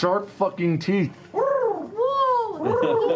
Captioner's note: cooing